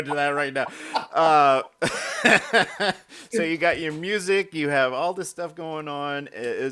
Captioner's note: laughing